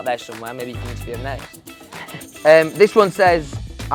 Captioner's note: laughing